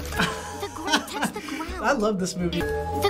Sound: laughs

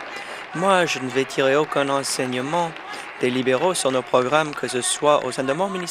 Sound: applause

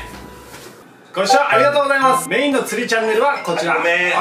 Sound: ringtone

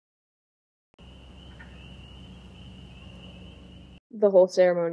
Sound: nature sounds

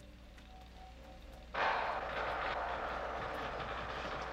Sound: chainsaw sound

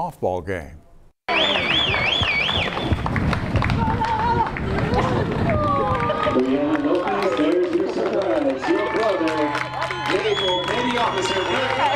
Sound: whistles from crowd

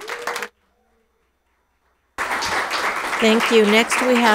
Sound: people cheer; audience applauds

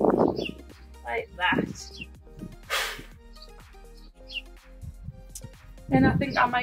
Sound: blows loudly

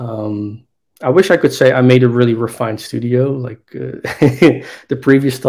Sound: laughs

